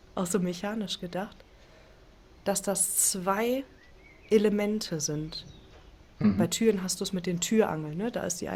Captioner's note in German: räuspern